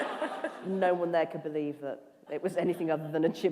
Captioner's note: laughter